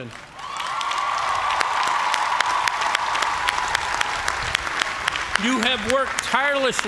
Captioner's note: cheers and applause